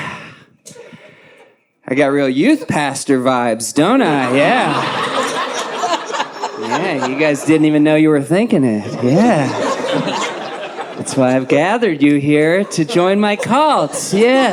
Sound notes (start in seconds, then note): 6.4 audience laughs